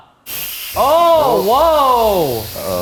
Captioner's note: steam hissing